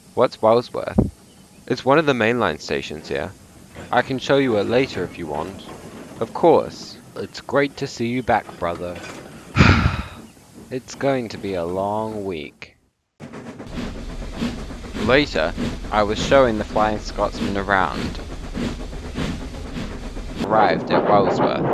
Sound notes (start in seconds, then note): 9.5 sighs